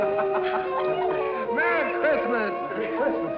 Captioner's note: laughing